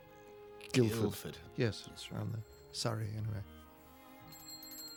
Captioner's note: bicycle Bell Ringing